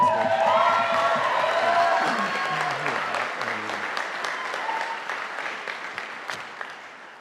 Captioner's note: audience cheering; audience applauding